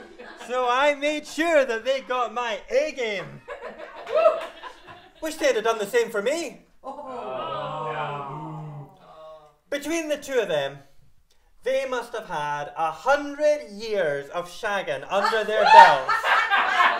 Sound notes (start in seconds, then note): 3.2 laughter, whoop; 6.8 awww